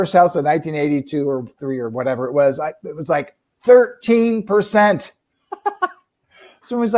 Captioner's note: laughing